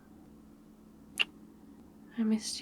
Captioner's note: kiss